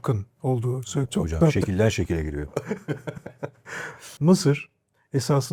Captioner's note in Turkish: kahkaha